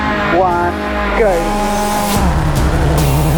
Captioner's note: engine revving; suspenseful music